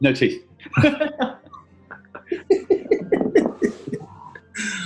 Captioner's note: laughing